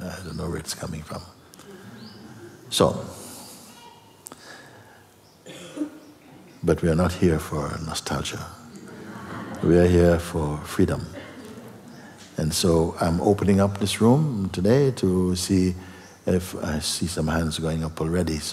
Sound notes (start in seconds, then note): 8.7 laughter